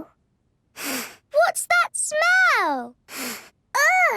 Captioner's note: sniffs; sniffs